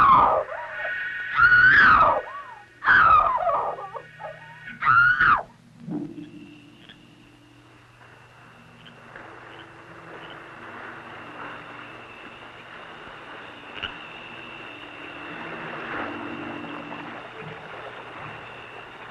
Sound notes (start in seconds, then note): 7.1 frogs creaking; 11.1 water babbling